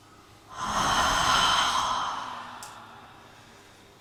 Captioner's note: people inhaling; people exhaling; people inhaling